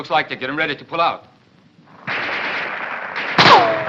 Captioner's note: machine gun fires